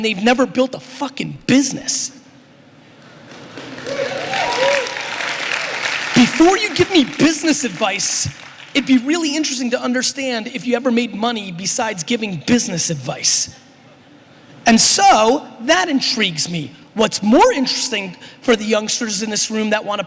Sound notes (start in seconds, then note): 3.2 applause